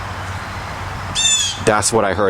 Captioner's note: bird Yell